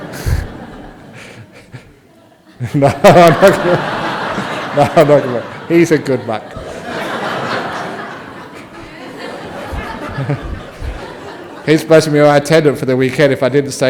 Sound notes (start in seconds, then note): 0.1 audience laughs; 7.4 laughter